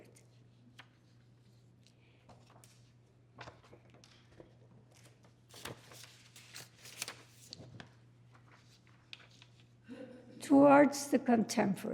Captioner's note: paper rustling